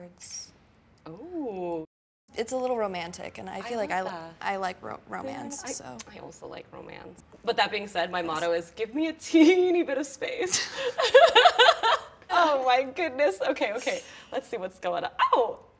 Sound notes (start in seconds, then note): 10.6 both laughs genuinely